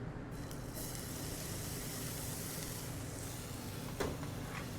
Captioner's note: pan sizzling